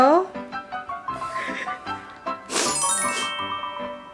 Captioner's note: deep Breathing